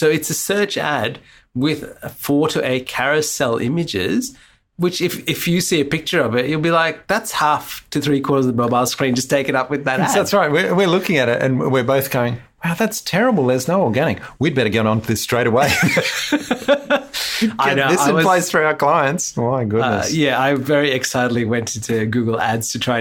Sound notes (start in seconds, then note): 15.6 laughs